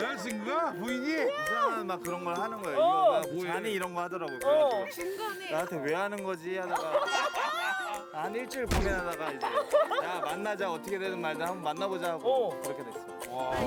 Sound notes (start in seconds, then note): 8.6 talking